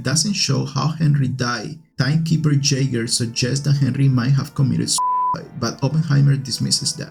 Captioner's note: beep